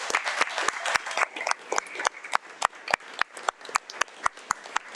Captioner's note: audience applauding